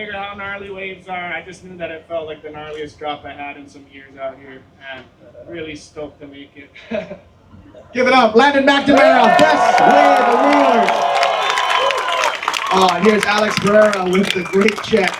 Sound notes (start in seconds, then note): 12.7 applause